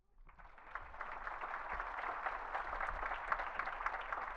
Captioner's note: audience clapping